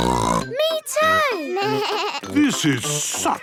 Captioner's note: bleating; snorts